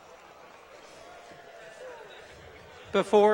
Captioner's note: applause